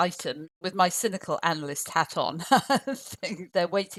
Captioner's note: laughs